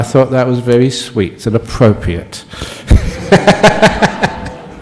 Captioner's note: Ajahn laughs